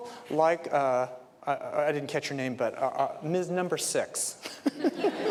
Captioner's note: laughter